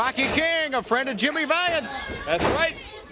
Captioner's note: crowd chatter